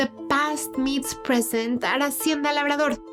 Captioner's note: speaking Spanish